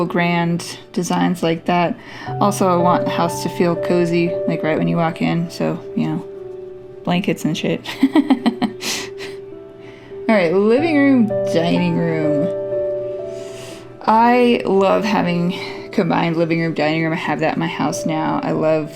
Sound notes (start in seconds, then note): 7.9 laugh